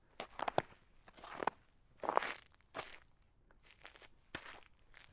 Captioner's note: sounds of you approaching the historic town's church